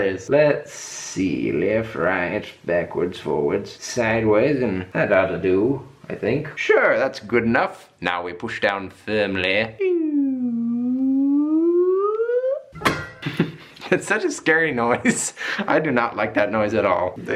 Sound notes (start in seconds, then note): 9.8 making sound effect; 12.8 cutter banging